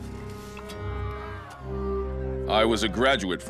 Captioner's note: people shouting